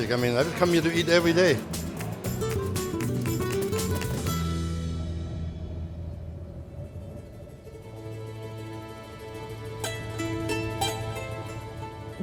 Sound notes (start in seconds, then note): 5.4 wind blows; 9.1 soft string music